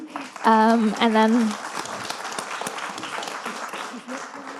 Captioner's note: audience applauding